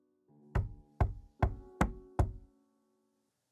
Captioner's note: quiet knocking